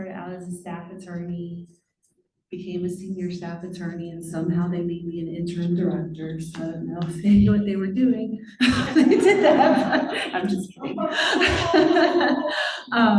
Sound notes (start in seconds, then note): 8.6 laughter